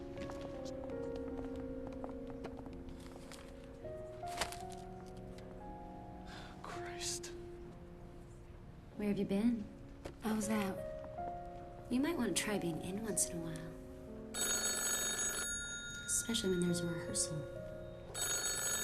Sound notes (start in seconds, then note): 14.3 phone ringing